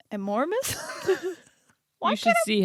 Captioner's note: giggling